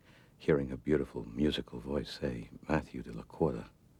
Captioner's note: none